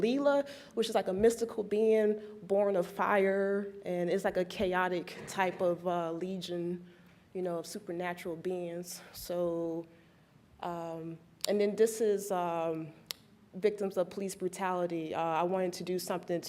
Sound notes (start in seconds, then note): none